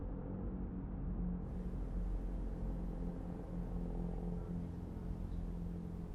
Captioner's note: none